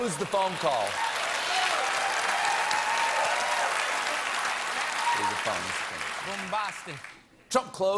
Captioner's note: applause